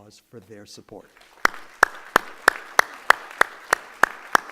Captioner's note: applause